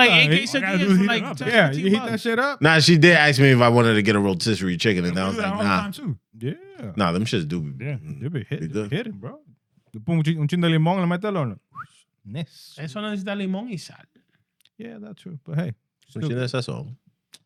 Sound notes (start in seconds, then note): 9.9 speaking In Foreign Language; 11.7 whistling; 16.6 speaking In Foreign Language